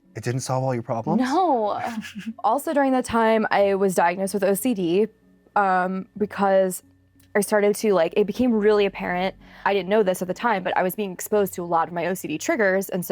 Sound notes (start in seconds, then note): 1.8 giggles